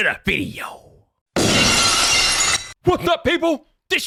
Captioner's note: glass shattering